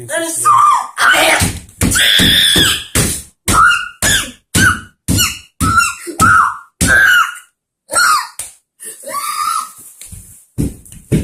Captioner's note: screaming